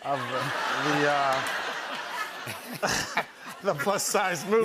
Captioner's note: laughter